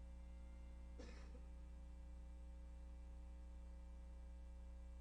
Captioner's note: audience member coughs